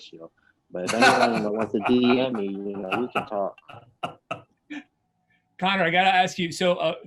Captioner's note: laughs